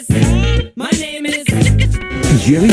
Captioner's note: disc scratch